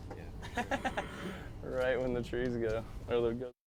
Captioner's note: laugh